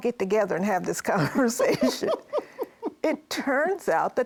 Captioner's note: laughs